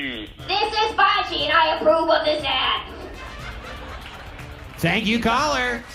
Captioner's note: audience laughing